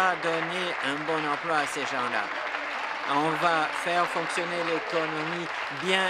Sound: applause

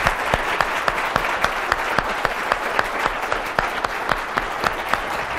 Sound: applause

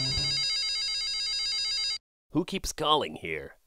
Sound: phone ringing

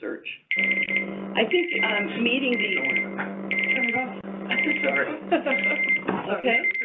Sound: phone ringing

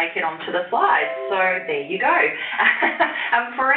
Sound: laughs

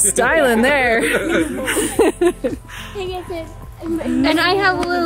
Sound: laugh

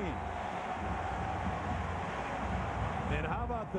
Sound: cheering, applause

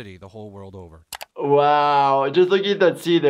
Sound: computer mouse clicks

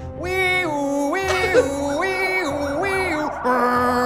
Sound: imitating sirens; police sirens

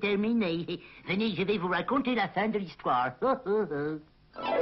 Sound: laughs

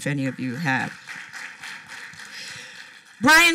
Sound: applause

